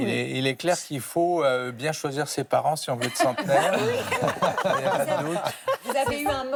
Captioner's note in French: rires